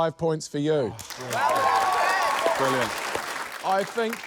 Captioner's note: cheering